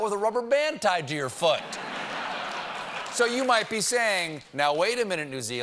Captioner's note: laughter